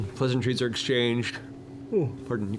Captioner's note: yawns